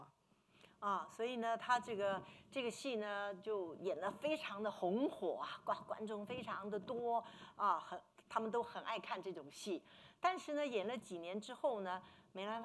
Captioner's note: speaking Mandarin